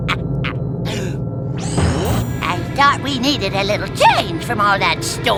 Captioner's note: laughing